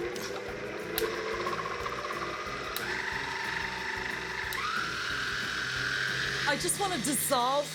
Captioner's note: mixer noise